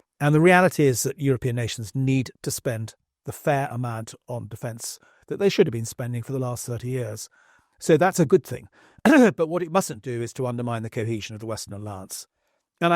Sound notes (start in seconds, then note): 9.0 cough